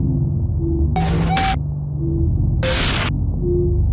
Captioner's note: static crackling; soft eerie music